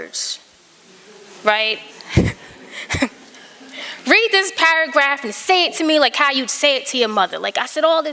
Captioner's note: laughter